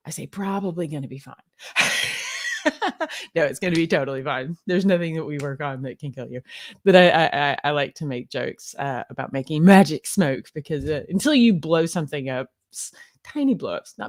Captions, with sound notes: I say probably gonna be fine. (laughs) No, it's gonna be totally fine. There's nothing that we work on that can kill you. But I like to make jokes about making magic smoke because until you blow something up, tiny blowups,